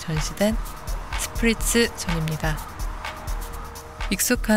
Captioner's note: Sprizzz!